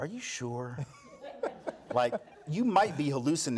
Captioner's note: audience laughs